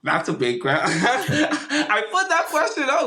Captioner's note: laughing